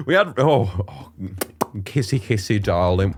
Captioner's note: Smooch